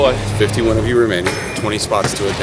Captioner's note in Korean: none